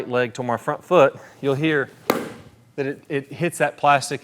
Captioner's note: club smacking plastic